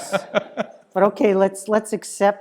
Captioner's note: laugh